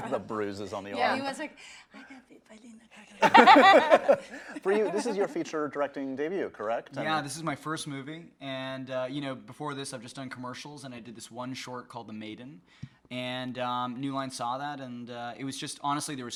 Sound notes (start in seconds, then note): 3.2 group laughs